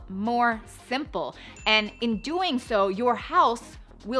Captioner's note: bell dings